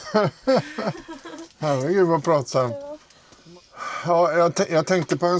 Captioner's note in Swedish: skratt